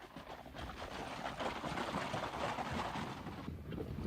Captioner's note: hooves trotting away; hooves pounding